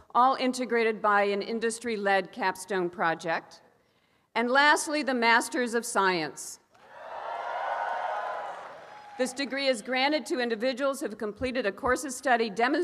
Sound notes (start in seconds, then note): 6.8 cheering and applause